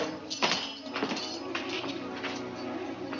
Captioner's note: footsteps